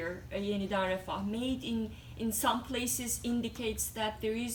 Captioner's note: non-english